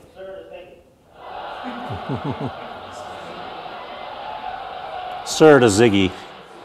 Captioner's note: audience laughter